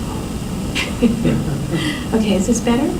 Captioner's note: laughter